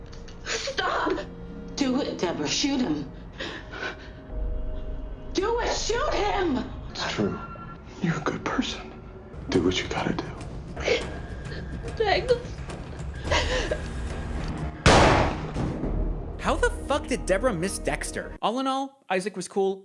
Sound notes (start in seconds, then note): 10.7 Debra crying; 14.8 gunshot